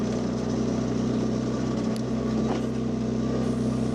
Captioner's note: engine rumbling